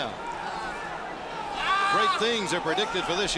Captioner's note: crowd chatter